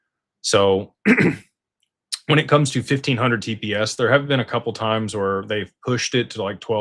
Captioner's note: clears throat